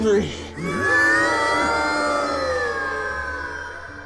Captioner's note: everybody groaning